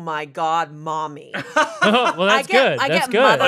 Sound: laughing

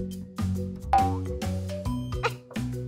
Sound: bright music; spring boings; laughs

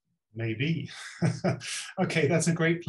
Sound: laughs

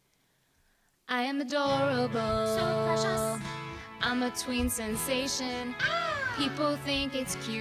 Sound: girl screams

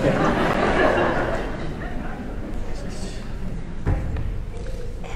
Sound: audience laughing

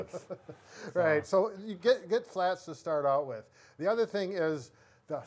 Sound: laughs

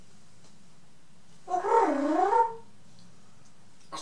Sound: cooing

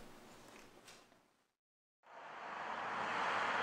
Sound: highway sounds

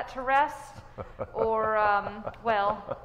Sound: man laughing

